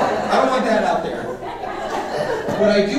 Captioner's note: audience laughing